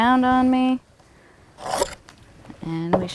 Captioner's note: pencil scarring wood, no additional audio